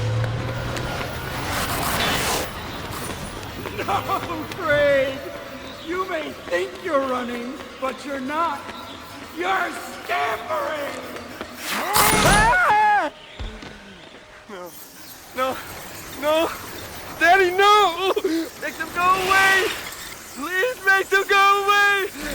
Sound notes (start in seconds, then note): 3.6 father Chuckling; 11.6 screaming